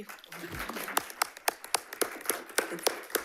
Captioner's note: attendees applauding